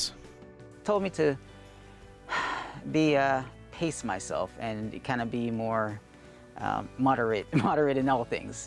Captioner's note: exhales